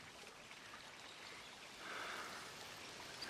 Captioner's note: sighs